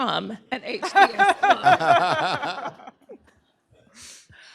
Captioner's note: laughter